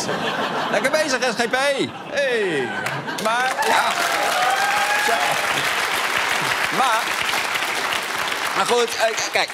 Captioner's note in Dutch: applaus